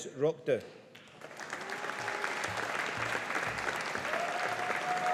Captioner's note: audience applauding